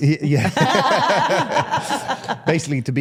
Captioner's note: participants laugh